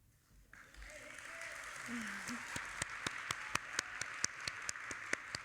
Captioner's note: audience applauding